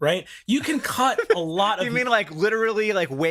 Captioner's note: laughs